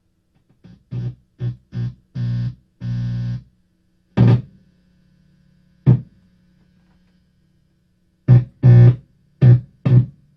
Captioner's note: buzzing sound